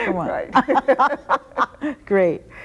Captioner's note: both laughing